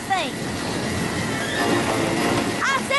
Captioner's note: wind whistling